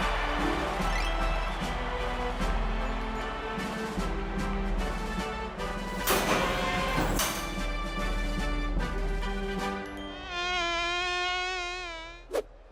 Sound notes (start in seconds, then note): 10.0 fly buzzes